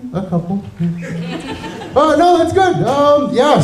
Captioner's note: giggles from audience